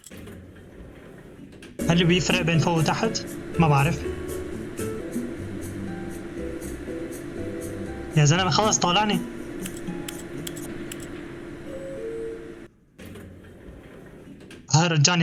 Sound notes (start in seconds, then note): 6.1 door creaks; 10.1 door closes